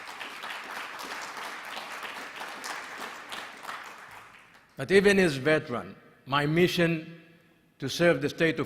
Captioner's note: applause